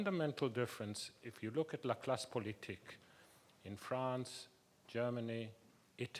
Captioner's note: speaks a foreign language